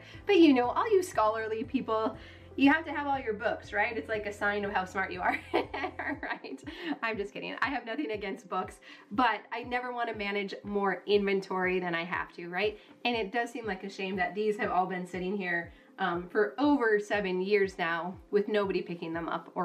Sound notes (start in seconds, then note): 5.2 laughing